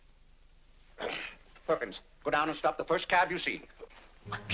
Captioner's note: grumbles